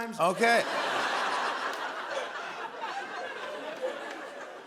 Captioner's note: laughter